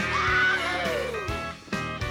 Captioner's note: country western music plays; cow moos